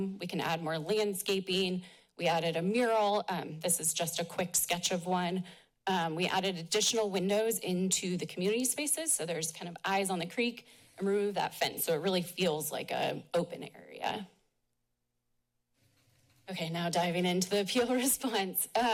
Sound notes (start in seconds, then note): 14.3 pause